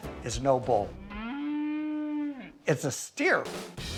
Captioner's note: cow mooing